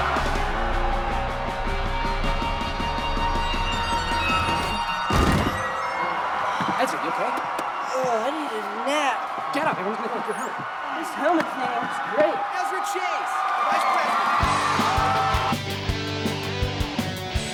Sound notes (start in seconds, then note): 5.1 Ezra thuds; 14.4 lively music